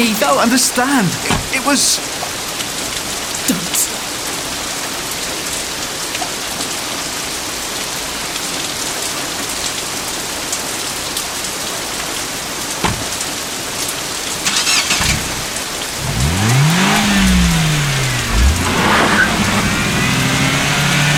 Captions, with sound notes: You don't understand. It was... Don't. [ DOOR SLAMS ] [ ENGINE STARTS ] [ ENGINE REEVES ] [ MINI DEPARTS WITH SCREECHING TYRES ]